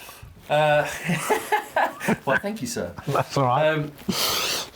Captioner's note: laughs